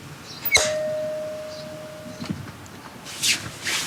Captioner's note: ping